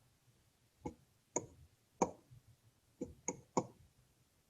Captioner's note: tapping